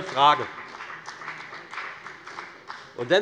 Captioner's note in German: Beifall bei der FDP